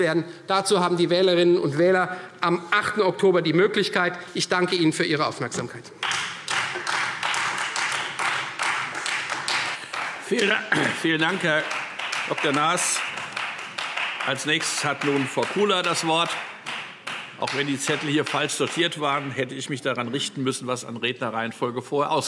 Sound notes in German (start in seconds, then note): 5.7 Beifall Freie Demokraten